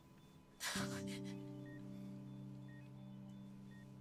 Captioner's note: Cassie crying